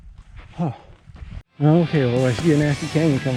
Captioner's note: sighs